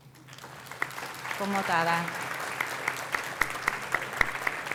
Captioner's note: applause; non-english speech